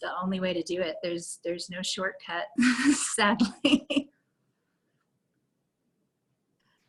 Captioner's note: laughter